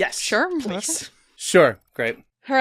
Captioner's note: laughs